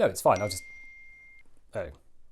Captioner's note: ping